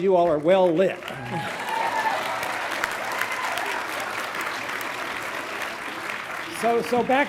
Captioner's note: graduates clapping; graduates cheering